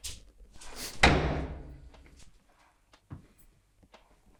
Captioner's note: door slamming